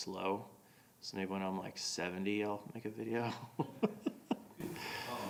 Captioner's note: laughing